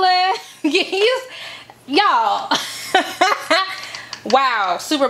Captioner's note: chuckles